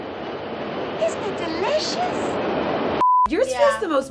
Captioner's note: beep